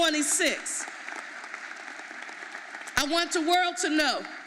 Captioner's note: audience applauding